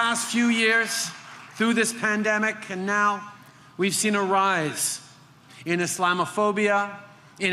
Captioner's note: applause